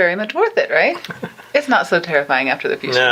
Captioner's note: laughing